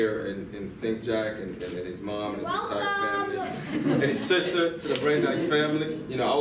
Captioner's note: girl's voice from off screen